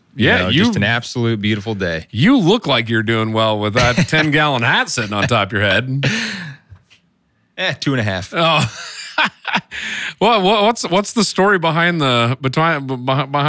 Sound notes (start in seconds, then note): 8.4 laughing